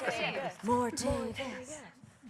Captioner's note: cheers and applause